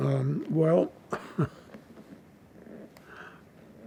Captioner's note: laughing